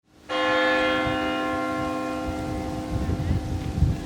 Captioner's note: bell chimes